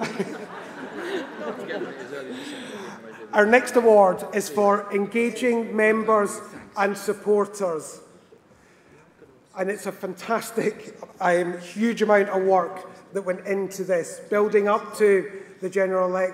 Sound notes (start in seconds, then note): 4.1 laughter